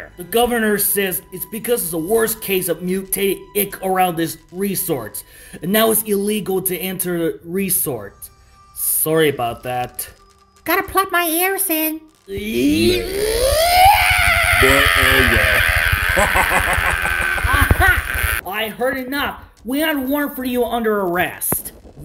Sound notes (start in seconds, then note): 12.4 Bob's screaming; 15.8 laughing